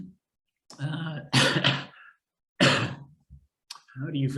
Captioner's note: coughing